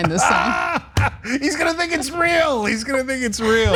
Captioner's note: laugh